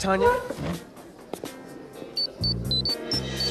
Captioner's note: beeping